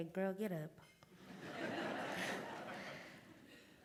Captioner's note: laughter